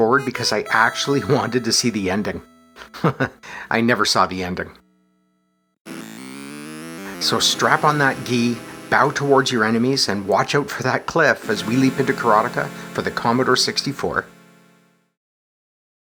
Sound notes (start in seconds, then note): 2.8 chuckles